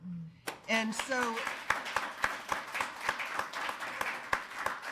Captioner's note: attendees applauding